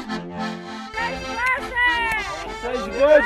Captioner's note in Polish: mówią gwarą Krakowiaków Wschodnich